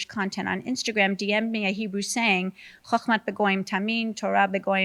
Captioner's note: speaks in Hebrew